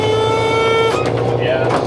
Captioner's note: engine revving